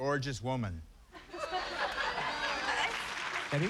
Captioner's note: laughter